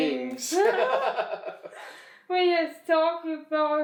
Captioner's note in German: kichern